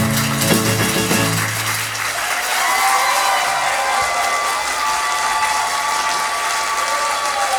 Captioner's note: music out. Applause